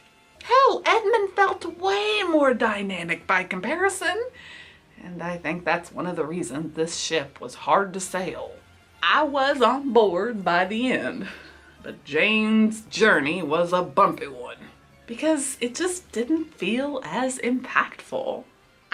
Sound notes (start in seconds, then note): none